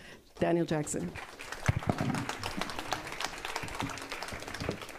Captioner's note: applause